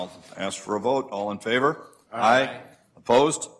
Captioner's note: multiple voices